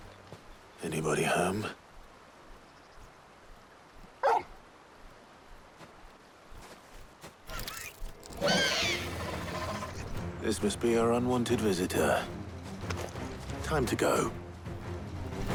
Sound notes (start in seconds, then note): 4.2 bark